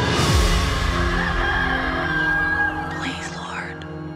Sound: rooster crows

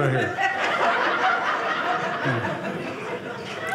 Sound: audience laughing

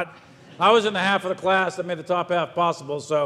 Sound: audience laughs

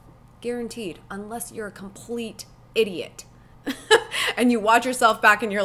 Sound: laughs

